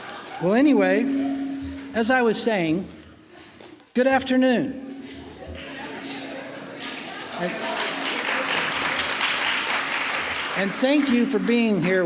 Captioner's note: laughing; applause